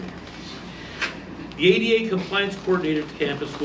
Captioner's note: reading from paper